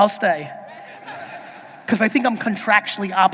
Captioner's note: audience laughing